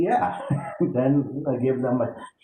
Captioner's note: chuckles